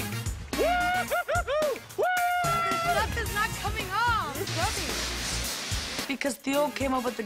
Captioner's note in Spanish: laughs